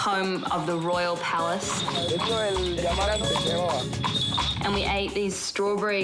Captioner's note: bells jingling and horse hooves clopping